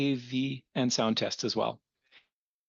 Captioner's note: speaking in French